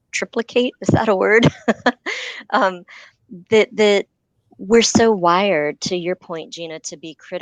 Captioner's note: laughter